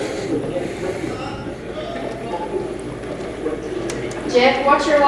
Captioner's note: radio channel changing